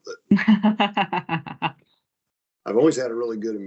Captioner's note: laughing